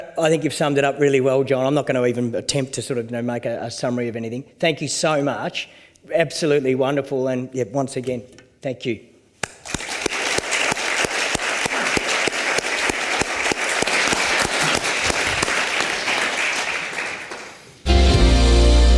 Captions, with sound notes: I think you've summed it up really well, Jon. I'm not gonna even attempt to make a summary of anything. Thank you so much. Absolutely wonderful. And once again, thank you. (audience clapping)